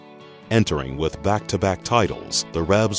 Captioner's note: voiceover